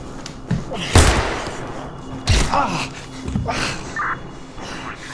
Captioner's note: suspenseful music; gunshot blasts; walkie talkie crackles